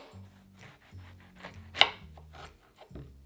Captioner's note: knife slicing